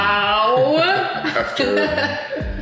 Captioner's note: laughing